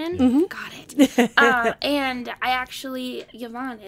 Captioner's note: laughing